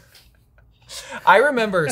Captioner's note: both laugh